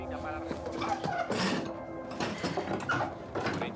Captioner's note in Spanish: ruidos al rebuscar algo